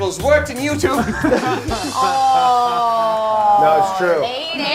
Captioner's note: group laughs